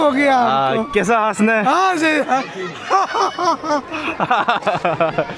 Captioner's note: laughing